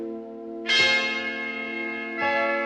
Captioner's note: bell rings